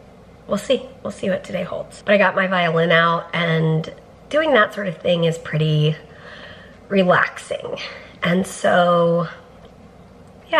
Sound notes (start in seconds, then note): none